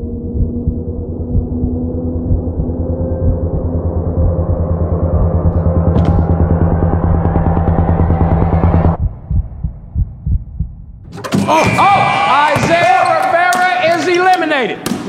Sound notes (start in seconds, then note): 0.1 tense sound; 10.1 dunk sound; 12.1 buzzer